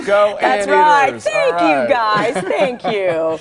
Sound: laughter

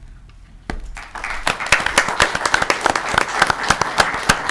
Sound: audience clapping

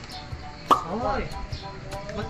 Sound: pop up sound

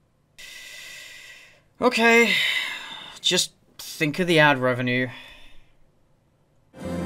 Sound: sigh

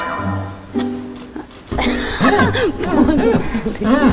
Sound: scrubbing

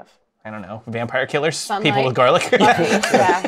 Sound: laughs

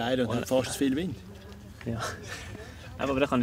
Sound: laughing

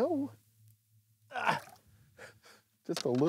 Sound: grunts, chuckles

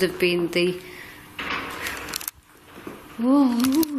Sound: banging

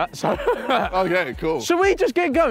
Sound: laughing

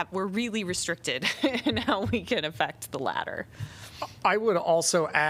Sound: laughter

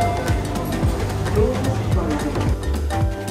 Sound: doors closing

